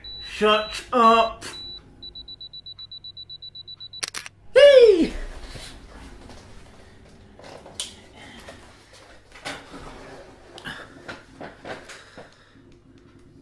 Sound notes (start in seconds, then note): 4.0 camera snap sound